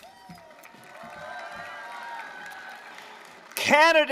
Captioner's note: applause, cheering